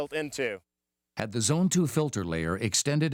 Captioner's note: voiceover